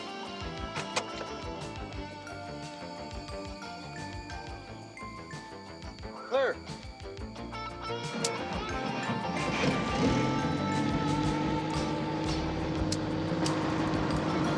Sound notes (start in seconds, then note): 8.9 helicopter whirring